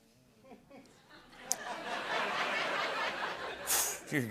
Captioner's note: laughter